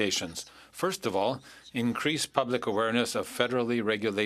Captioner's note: speaking French